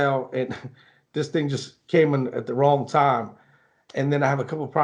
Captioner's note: chuckles